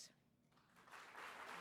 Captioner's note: applause